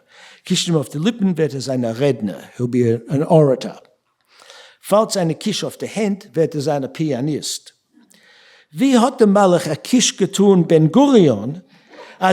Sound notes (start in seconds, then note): 0.2 speaking yiddish